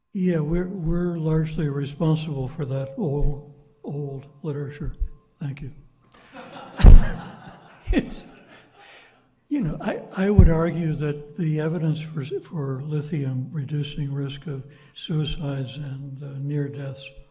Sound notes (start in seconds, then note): 6.2 audience laughing